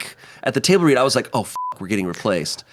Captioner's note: beep